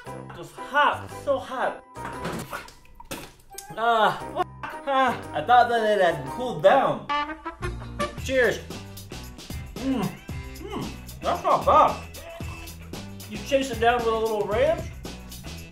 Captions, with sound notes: Oh it's hot, it's so hot! *spits* I thought that it had cooled down. Cheers. Mmm. That's not bad. You chase it down with a little ranch